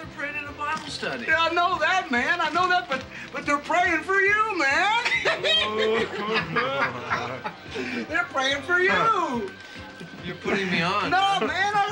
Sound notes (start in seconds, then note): 4.9 laughing